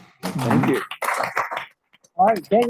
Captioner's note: audience applauds